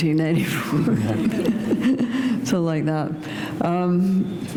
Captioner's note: chuckle